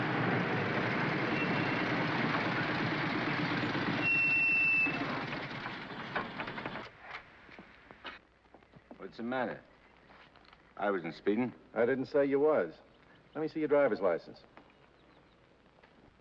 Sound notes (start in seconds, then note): 0.0 motorcycle engines clatter; 3.9 brakes squeal; 3.9 motorcycle engines clatter